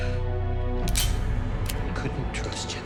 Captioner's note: gun clicks